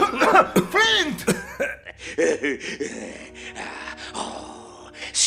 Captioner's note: laughter